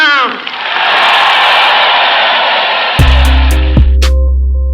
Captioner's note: applause